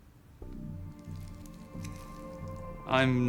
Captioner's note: liquid squelching